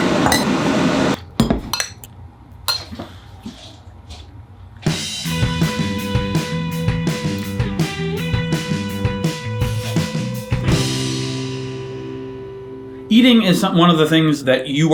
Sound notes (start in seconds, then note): 1.2 plates clanking; 5.3 upbeat music